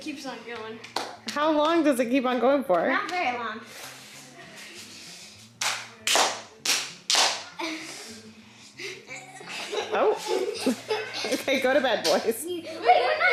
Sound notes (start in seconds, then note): 6.6 hands slap; 8.8 laughing